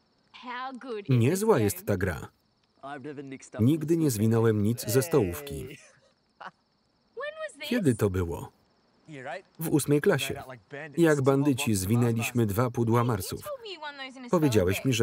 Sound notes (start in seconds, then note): 5.6 laughter